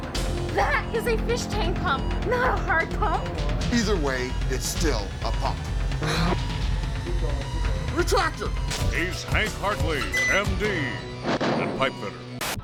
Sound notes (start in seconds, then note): 5.9 sighs